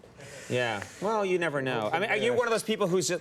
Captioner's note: Steve gasps